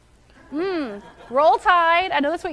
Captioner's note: laughing